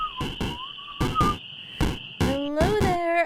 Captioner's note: whistling stops